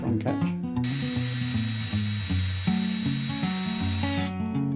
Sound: drill whirring

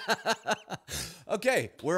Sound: laughs

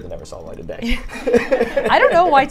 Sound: all laugh

